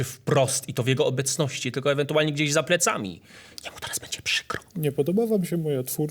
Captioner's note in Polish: szeptem